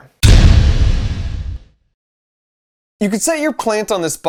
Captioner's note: crashing sound